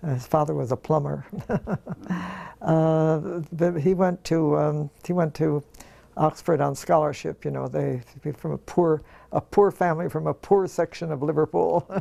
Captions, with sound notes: His father was a plumber. [LAUGH] He went to Oxford on scholarship, from a poor family from a poor section of Liverpool.